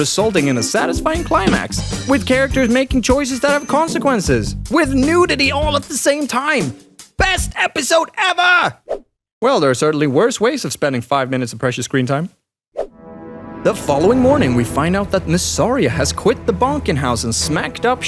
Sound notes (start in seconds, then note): none